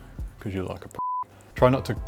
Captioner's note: beep